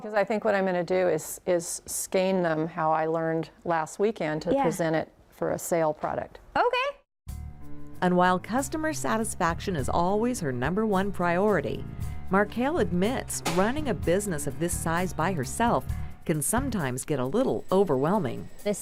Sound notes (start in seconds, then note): none